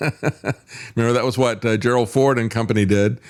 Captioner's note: laughs